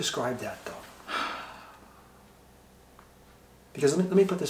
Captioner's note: sighs